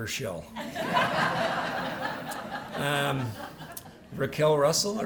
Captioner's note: laughter